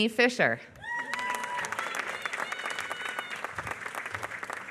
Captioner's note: applause